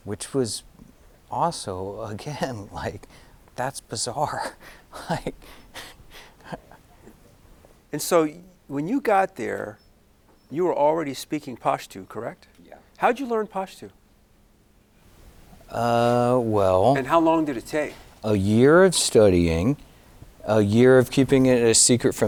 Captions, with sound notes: which was also, again, that's bizarre. (giggling) - And so, when you got there, you were already speaking Pashto, correct? - Yeah. - How did you learn Pashto? And how long did it take? - A year of studying, a year of keeping it a secret